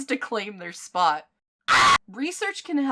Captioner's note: screams of terror